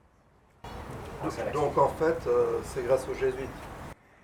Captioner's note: laughs